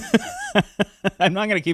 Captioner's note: laughs